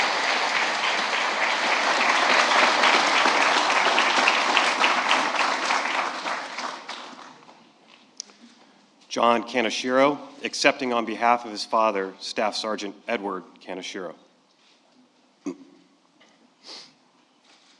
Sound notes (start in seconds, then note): 2.1 applause